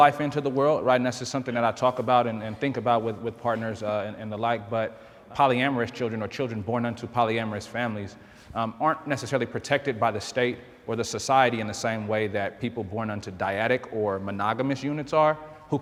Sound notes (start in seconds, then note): none